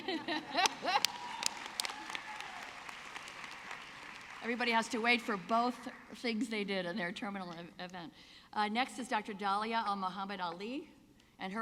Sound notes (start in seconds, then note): 0.0 laughing; 3.0 audience clapping